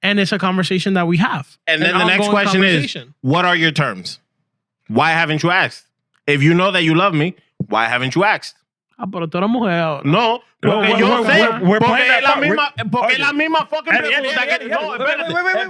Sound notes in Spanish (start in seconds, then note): 10.1 Hablando en idioma extranjero; 12.8 Hablando en idioma extranjero